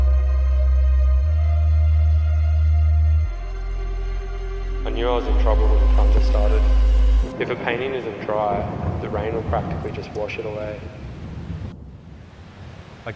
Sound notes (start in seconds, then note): 7.4 thunder rumbles; 11.4 rain patters